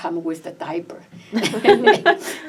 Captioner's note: all laugh